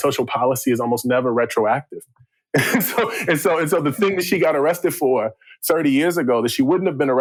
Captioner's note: laughter